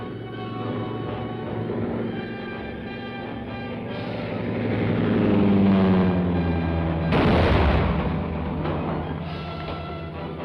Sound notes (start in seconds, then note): 3.9 engine buzzing; 7.1 explosion